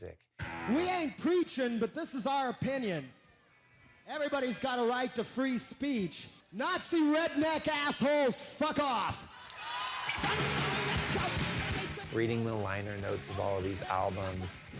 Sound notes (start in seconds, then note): 9.3 crowd cheering; 10.2 rock music playing